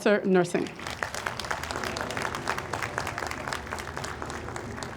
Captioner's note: audience applauds